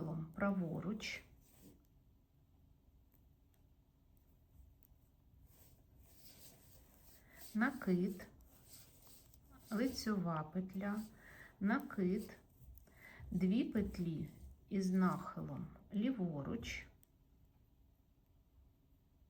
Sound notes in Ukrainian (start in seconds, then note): 11.0 сопіння